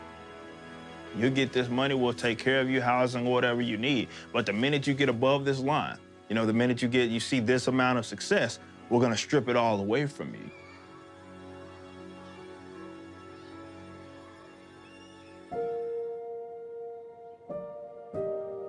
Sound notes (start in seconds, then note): 10.4 children shouting playfully